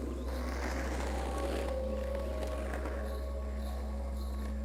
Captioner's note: skateboard rolling